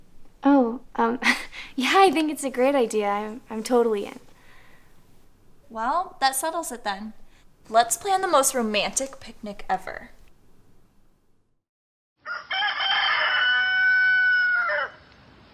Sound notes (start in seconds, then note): 12.2 rooster crowing